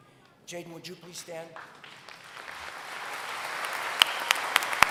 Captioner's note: applause